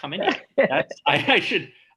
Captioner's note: chuckles